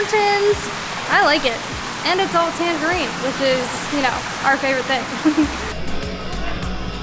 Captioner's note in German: Lacht